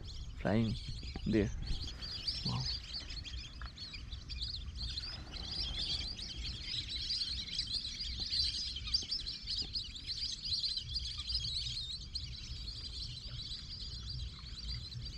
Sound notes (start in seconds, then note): 3.4 lesser Whistling Ducks Calling and Flying